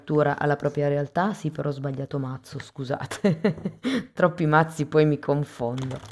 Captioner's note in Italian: risate